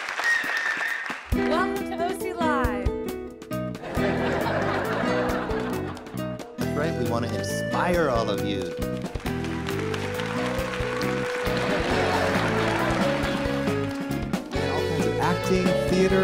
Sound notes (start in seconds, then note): 3.8 audience laughter; 11.4 audience applause and laughter